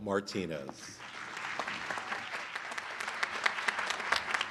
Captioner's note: applause